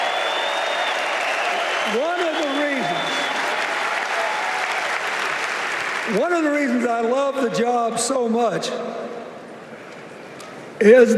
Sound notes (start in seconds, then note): 3.9 cheers and applause